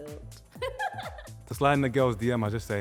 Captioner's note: laughs